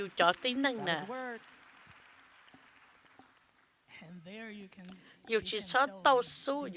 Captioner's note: applause